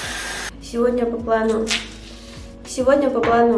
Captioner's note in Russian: звук пены